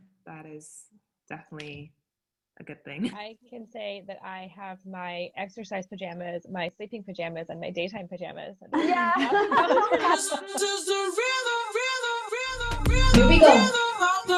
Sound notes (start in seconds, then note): 8.7 all laughing